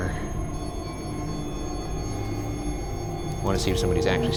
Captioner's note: REM-POD beeps